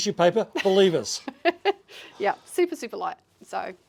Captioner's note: laughs